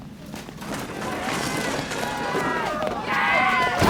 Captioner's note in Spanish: gritando